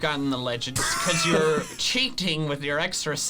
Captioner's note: laughs